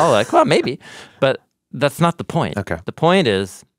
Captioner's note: laughs